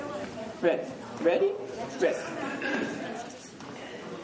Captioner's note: crowd chatter